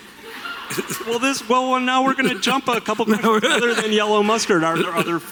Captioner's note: laughter from the audience